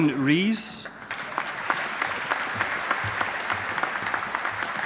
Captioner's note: audience applauding